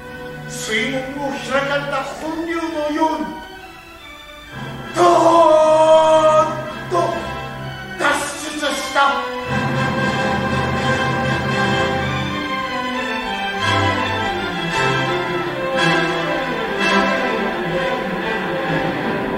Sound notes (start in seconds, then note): 4.6 sound of people rushing through